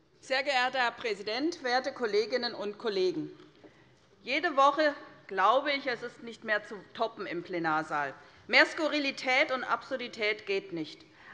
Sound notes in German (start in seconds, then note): none